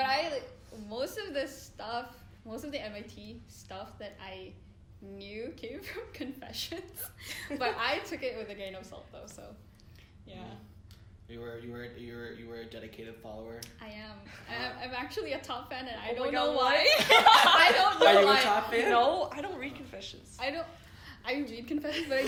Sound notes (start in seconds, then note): 6.8 laughs; 13.9 laughs; 15.9 voices in union; 16.8 laughter; 19.3 laughs